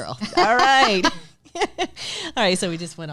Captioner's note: laughing loudly